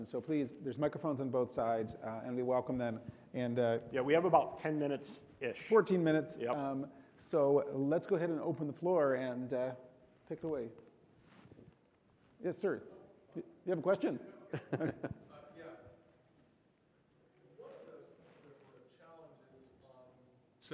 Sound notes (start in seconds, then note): 14.4 chuckles